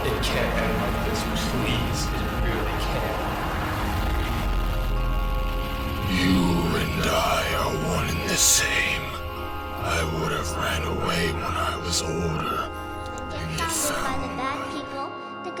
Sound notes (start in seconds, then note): 4.1 his voice getting downed out